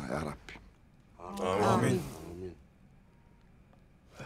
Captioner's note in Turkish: Hep bir ağızdan